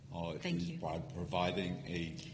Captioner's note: voiceover